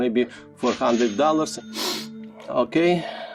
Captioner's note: cash register chime